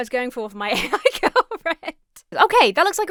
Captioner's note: laughs